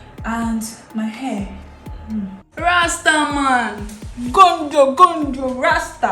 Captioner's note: sighs